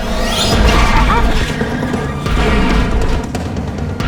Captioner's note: clanging